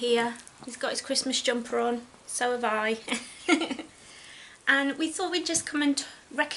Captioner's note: giggles